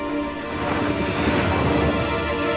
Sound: transition sound

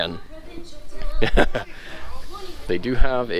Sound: laughs

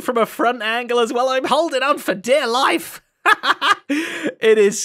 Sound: laughs

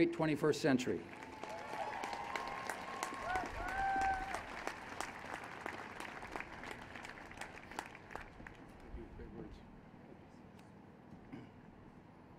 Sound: applause and Cheers

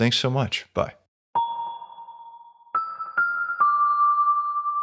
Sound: chime tones

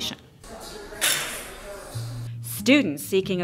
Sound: background talking

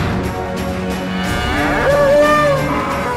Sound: bull roaring

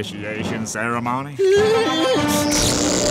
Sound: whimpering

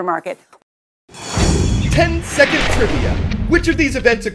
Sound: voice-over

